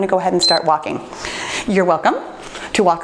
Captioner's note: timer beeps